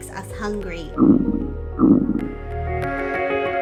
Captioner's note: stomach gurgles